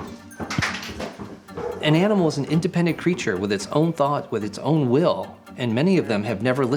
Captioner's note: narrating